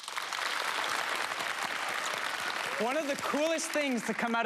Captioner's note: audience applause